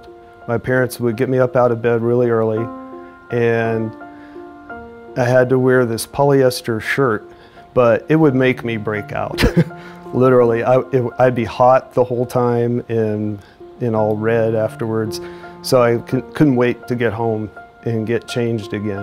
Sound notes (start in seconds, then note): 9.4 laughs